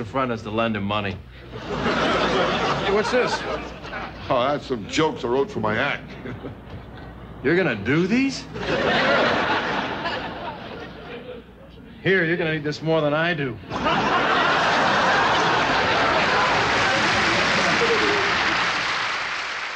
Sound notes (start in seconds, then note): 1.5 audience laughing; 8.5 audience laughing; 13.6 audience laughing; 15.0 clapping